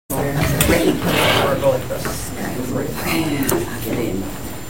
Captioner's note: boardroom chattering